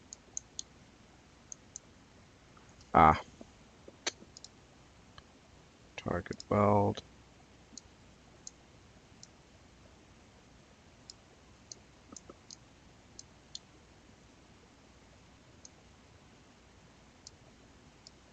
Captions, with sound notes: Ah. (clicks tongue) Target weld. (mouse clicking)